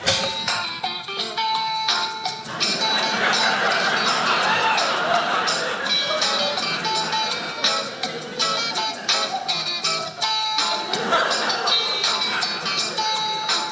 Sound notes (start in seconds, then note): 0.1 lively acoustic guitar music; 2.4 audience laughing